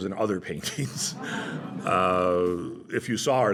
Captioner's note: laughter